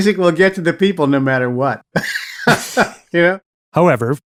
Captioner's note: laugh